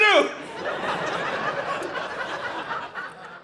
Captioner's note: audience laughing